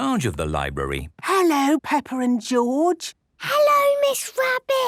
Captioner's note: whispering